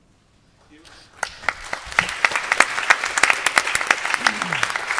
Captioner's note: applause